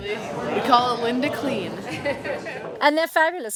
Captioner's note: laughter